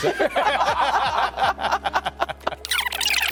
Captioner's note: laugh